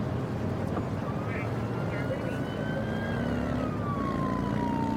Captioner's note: siren blaring